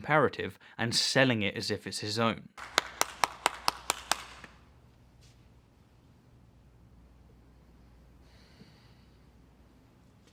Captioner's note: “clap”